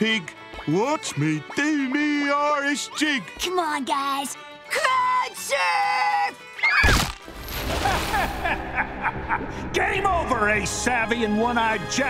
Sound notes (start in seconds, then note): 6.2 squealling; 7.8 laughing